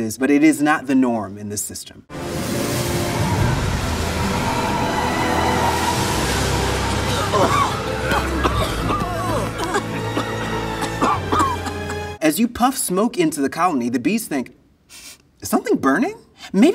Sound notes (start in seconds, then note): 2.1 ominous music; 2.2 smoke spraying; 8.0 bees coughing